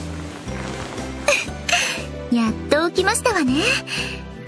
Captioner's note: giggle